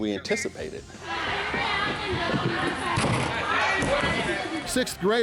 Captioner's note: chattering